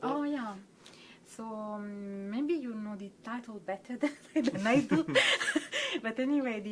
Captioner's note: laughs